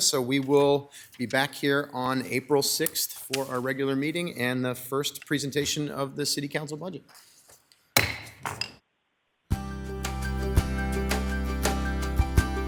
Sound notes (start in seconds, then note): 8.0 gavel thuds; 9.5 bright music